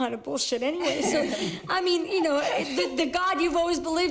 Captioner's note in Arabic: ضحك